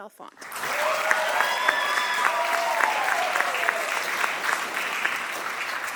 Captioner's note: audience applauding